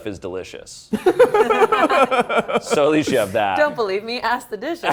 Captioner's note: all laughing